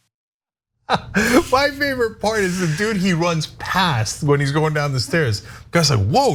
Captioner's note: laugh